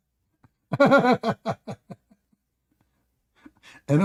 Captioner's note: Ketawa